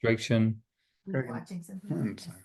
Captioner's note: people off mute chatting